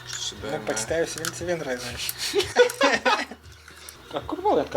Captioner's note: giggling